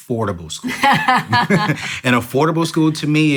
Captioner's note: laughter